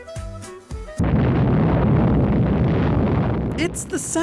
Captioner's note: loud explosion